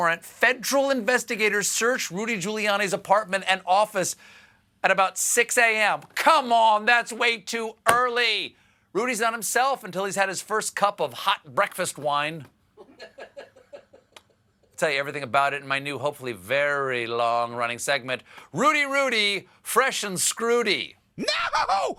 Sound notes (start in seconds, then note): 12.8 laughter